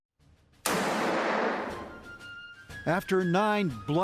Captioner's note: cannon blasts